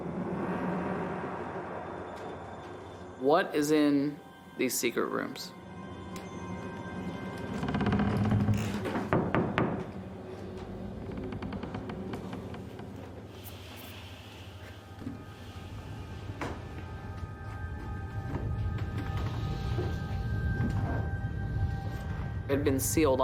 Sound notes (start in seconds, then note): 0.1 suspenseful; 6.4 suspenseful; 9.5 knocks; 11.5 creaking